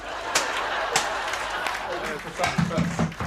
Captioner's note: laughter